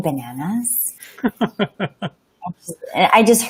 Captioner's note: laughing